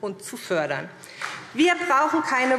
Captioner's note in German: Beifall SPD